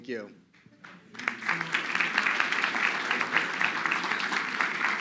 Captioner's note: crowd clapping